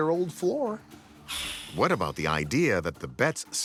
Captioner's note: air whooshing